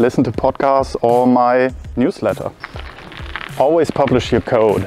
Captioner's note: gravel crunching